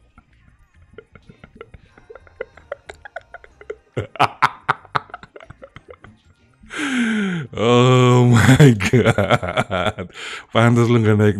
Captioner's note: laughs